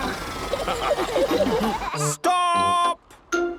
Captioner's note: all laughing